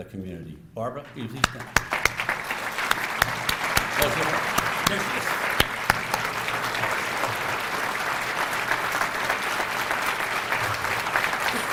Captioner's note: applause